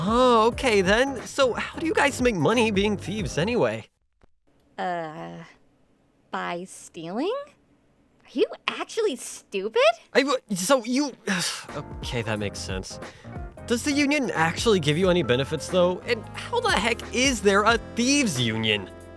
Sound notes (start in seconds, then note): 11.2 sigh